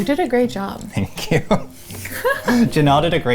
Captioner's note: chuckling; laughing